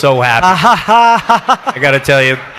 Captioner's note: audience laughs